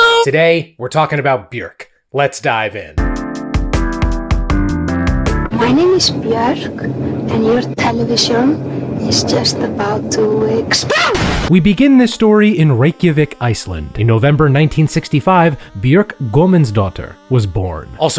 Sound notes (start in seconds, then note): 2.9 lively music; 10.6 explosion bangs